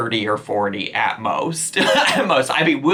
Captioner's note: laughing